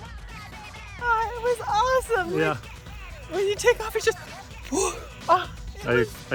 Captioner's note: gasp